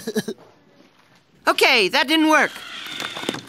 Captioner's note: laughing